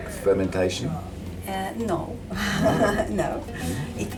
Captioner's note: laughs